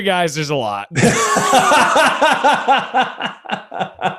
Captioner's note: both laughing